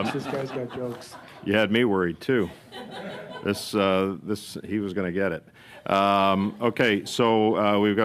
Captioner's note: laughter